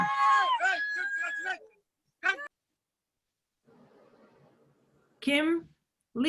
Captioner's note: cheering